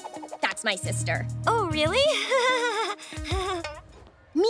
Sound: laughing

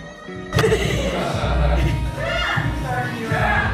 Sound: laughter

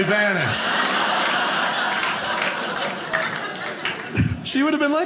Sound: audience laughing

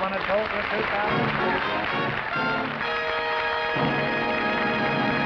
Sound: applause

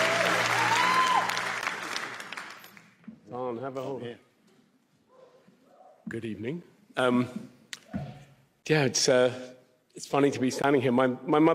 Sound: applause

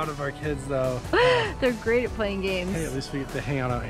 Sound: laughs

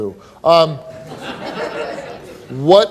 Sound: audience laughing

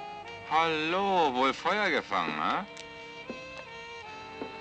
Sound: Joe scoffs

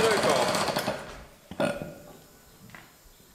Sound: burp

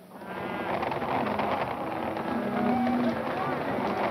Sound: cattle moaning

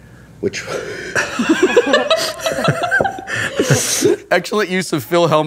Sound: laughter

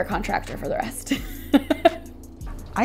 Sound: chuckles

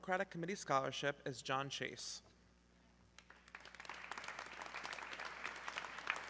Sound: audience clapping

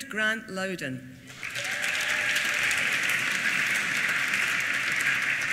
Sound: applause

